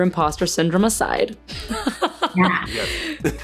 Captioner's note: laughs